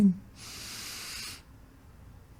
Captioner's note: inhale